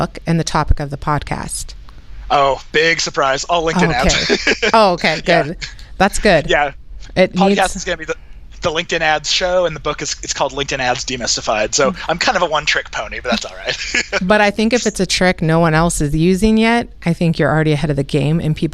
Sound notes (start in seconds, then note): 3.7 laughs